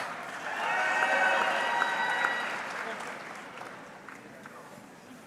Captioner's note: audience cheering